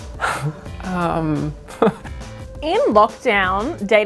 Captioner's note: laughs